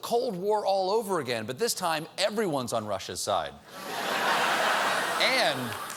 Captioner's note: laughter